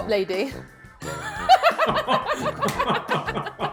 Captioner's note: laughs; claps